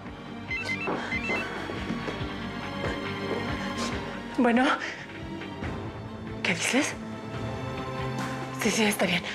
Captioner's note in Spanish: suena el celular